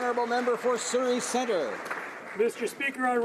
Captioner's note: applause